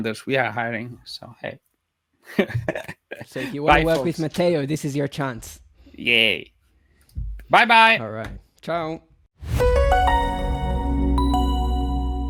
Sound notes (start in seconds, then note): 2.3 chuckles; 9.5 upbeat music